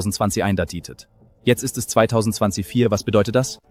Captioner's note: German